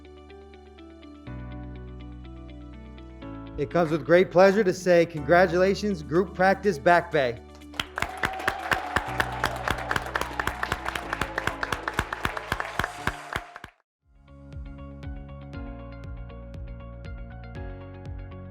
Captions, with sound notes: - It causes great pleasure to say congratulations, group Practice Back Bay. (graduates clapping) (graduates cheering)